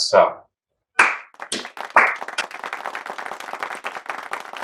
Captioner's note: people clapping